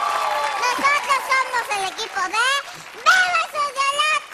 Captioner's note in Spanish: Aplausos